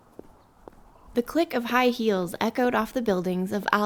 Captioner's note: high heeled footsteps echo on concrete